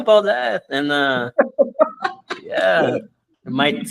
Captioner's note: laughs